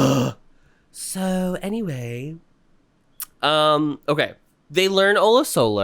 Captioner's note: gasp